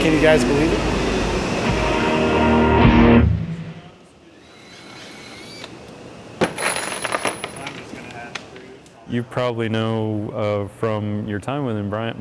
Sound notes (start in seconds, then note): 4.3 drill buzzes; 6.4 nails clang